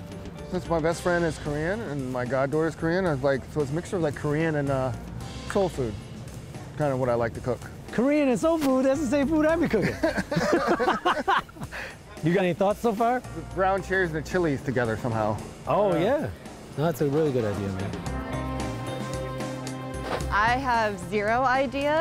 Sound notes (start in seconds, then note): 9.8 laughing; 18.3 upbeat music